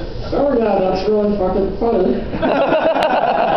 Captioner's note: laughter